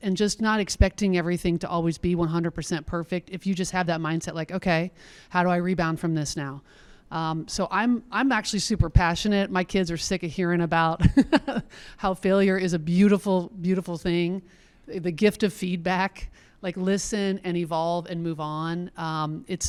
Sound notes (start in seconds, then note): 11.0 laughs